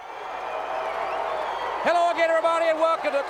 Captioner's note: crowd cheering